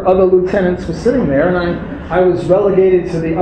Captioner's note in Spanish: risas